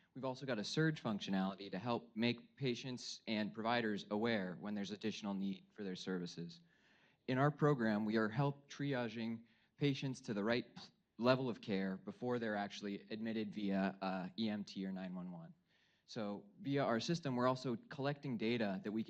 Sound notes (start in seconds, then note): none